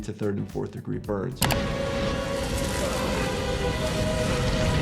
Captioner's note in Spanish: fuego chisporroteando